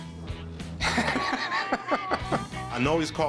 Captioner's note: laughs